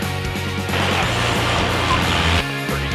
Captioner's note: plane engine roaring